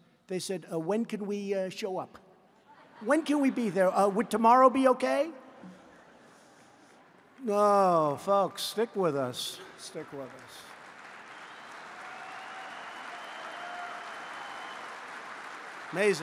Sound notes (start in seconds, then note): 2.6 laughter; 9.4 applause